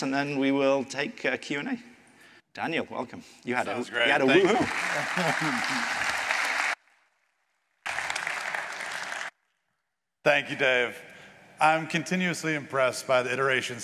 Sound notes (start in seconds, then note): 5.6 applause